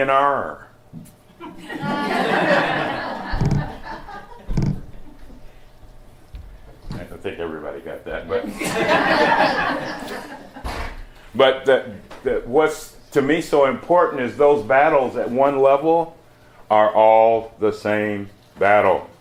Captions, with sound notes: D and R. (laughter) I don't think everybody got that but— (laughter) But that— that— what's to me so important is those battles at one level are all the same battle.